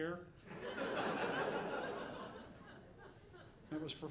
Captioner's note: audience laughing